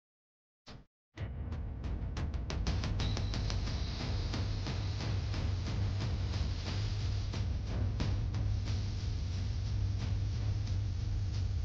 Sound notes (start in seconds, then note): none